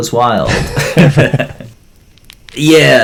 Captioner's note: laughter